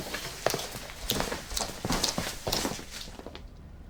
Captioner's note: feet shuffling